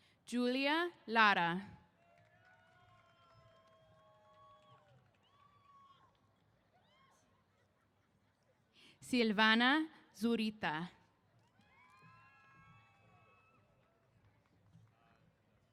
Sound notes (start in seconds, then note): 2.0 cheers; 11.4 cheers